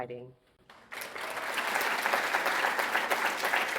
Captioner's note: audience applauds